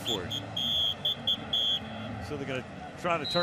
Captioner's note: whistle blows